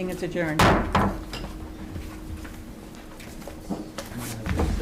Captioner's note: gavel banging